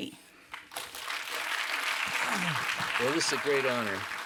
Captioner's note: applause